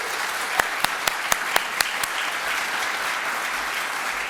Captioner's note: applause